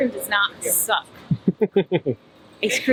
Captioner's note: laughs